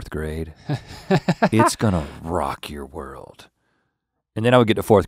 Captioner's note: guffaws